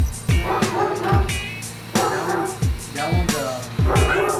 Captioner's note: dogs barking